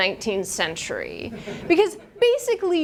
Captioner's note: students laugh